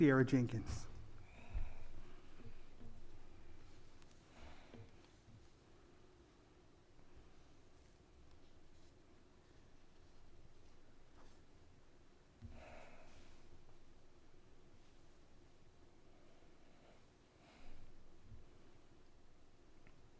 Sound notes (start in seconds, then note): 6.2 silence